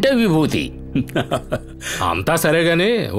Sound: laughs

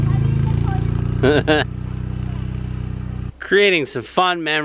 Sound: laughing

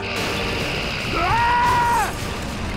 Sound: screaming

